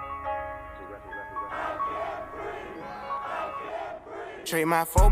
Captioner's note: piano music; crowd